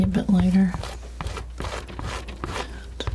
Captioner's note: scratching